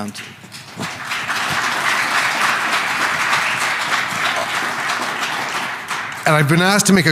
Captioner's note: applause